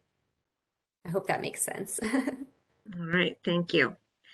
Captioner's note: chuckles